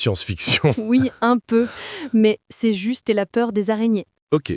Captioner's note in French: rire